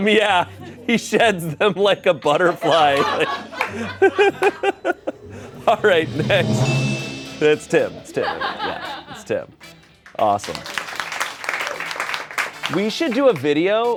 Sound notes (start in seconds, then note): 6.9 bell chimes; 10.5 crew applauds